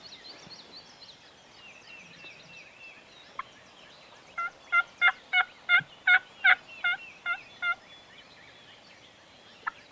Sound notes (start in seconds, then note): 4.5 turkey call yelping